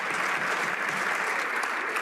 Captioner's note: some Applause